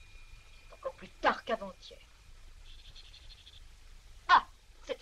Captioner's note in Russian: слабо доносится звон колокольчика